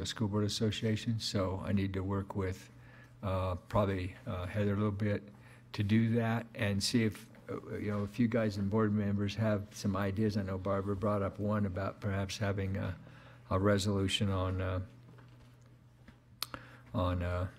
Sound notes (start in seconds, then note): none